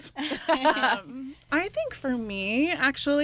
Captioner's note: laughs